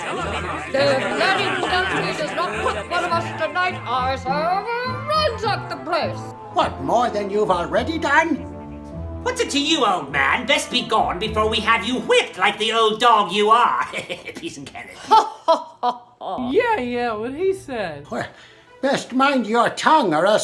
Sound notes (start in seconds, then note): 13.8 laughter